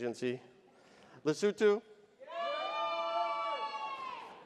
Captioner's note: audience cheers